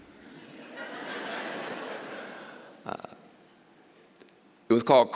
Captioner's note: laughter